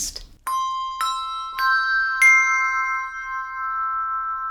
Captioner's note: bells ringing